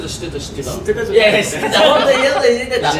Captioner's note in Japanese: 笑い声